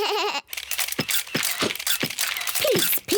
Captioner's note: all make animal noises; camera shutters clicking